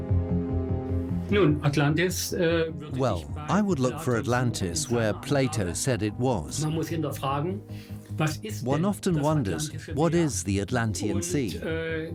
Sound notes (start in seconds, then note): 6.4 speaks in German